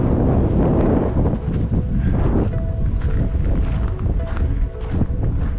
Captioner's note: wind blowing